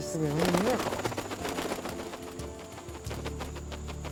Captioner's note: wings flapping